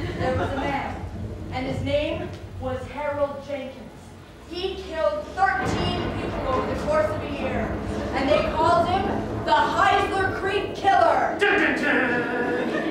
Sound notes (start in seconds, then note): 6.7 ominous noises, thunder cracking